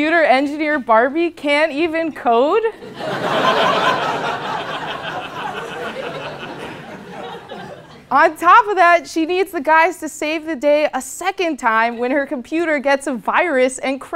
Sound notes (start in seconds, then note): 2.8 laugh